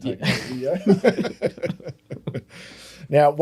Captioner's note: laughing